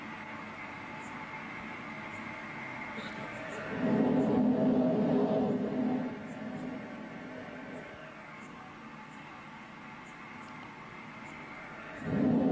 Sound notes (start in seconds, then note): 3.5 blows in the mike